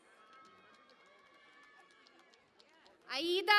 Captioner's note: cheering and Applause